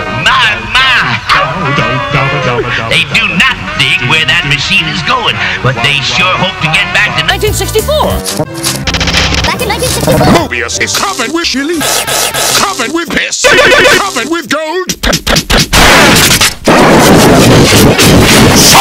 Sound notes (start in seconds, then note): 5.4 gasp